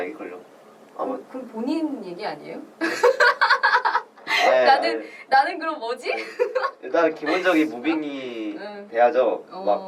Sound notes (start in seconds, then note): 4.2 laughs